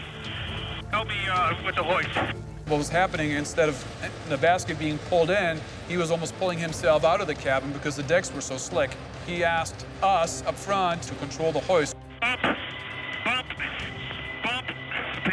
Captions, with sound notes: - What was happening, instead of the basket being pulled in, he was almost pulling himself out of the cabin because the decks were so slick. He asked us up front to control the hoist. (static)